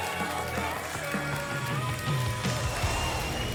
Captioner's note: applause and cheering